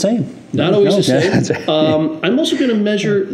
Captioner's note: laughs